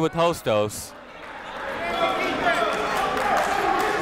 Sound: chatter

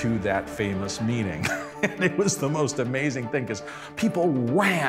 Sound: laughs

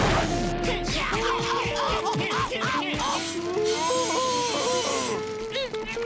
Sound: groaning

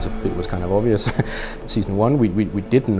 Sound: laughs

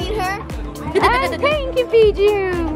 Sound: chuckles

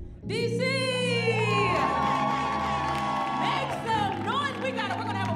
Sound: audience cheering

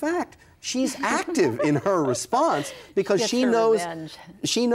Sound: laughs

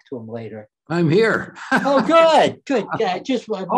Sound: laughs

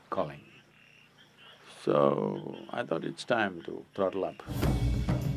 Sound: laughs

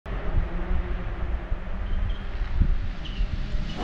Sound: engine roaring

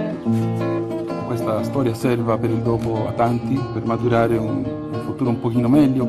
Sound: cheerful music; speaking foreign language

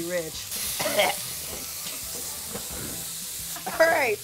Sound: coughs

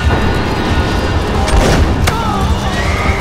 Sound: gunshot

